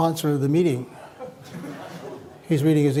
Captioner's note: laughter